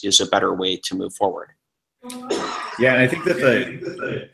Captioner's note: feedback